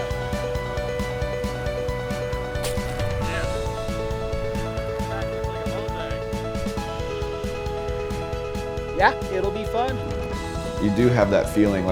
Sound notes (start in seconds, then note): 0.0 rousing instrumental music; 4.6 indistinct chatter